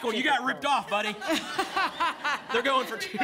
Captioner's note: laughter